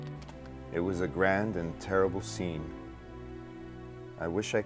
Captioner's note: voiceover